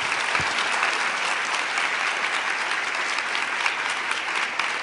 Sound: applause

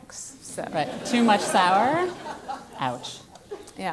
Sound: laugh

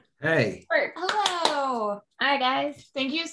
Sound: clapping

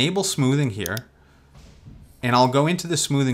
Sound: mouse clicks

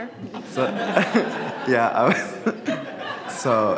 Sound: audience laughs

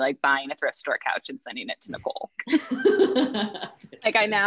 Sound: hosts laugh

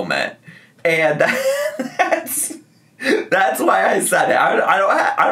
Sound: laughing

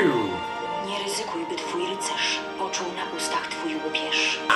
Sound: foreign language

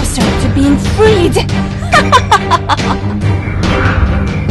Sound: laugh

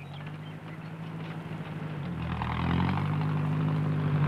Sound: engine rumbling

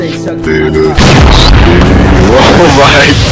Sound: explosion

